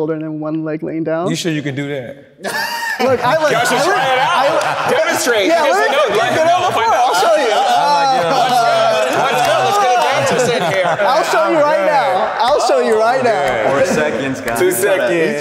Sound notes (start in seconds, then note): 2.4 laughs indignantly